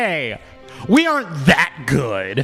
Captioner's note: laughs